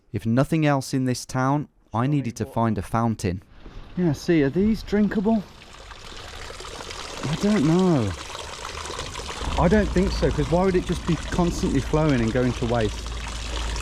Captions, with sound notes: If nothing else in this town, I needed to find a fountain. Yeah. see are these drinkable? I dunno. (water trickling) I don't think so, 'cause why would it just be constantly flowing and going to waste?